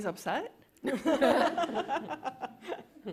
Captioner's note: laughter